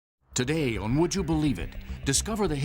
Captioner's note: voiceover